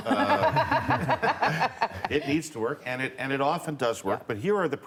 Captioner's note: laughter